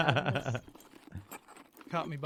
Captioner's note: laughing